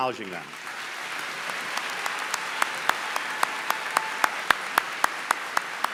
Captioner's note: applause